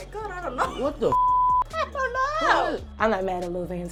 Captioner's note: beep